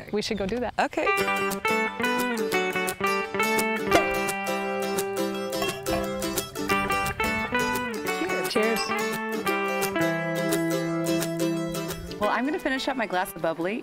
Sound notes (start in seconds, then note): 2.3 folksy music; 3.8 cork pops